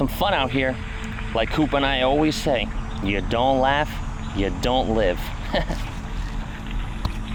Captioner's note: laugh